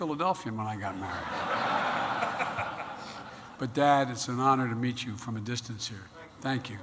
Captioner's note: laughter